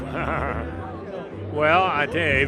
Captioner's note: laughs